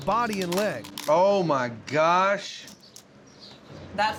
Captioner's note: cracking